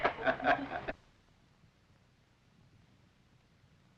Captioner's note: laughing